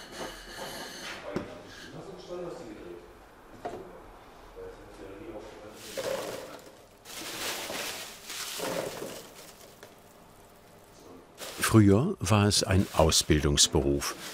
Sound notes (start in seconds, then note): 1.1 conversation in the background; 5.8 rustling